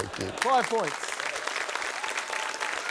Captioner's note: applause